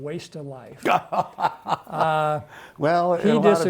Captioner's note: laughs